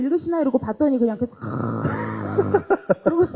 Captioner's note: snoring